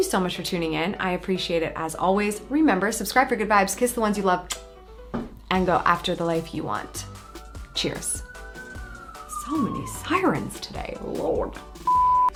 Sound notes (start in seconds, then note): 4.5 kisses; 8.3 bright music; 9.3 siren blaring; 11.8 beep